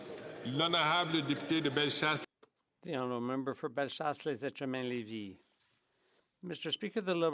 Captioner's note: speaking French